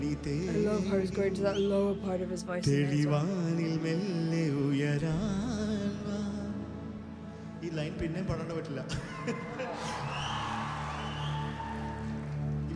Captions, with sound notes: I love how he's going to that lower part of his voice. (singer speaking in foreign language) (audience cheering)